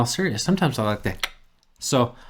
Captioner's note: clicking